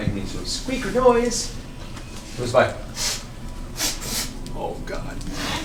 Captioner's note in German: schnuppert